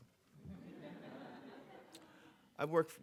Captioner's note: audience laughing